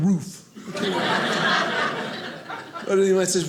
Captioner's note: audience laughing